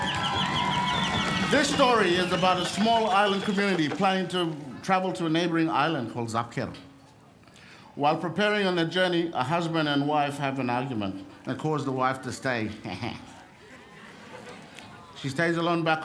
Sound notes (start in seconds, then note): 4.5 cheering